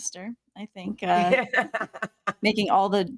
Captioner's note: laughing